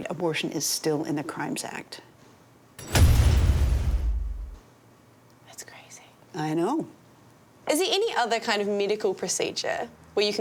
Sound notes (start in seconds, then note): 2.8 metal rattling; 2.8 metal thudding